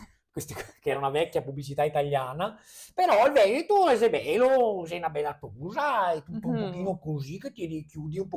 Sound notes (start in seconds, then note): 5.1 speaks in Veneto accent